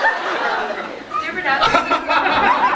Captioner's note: laughs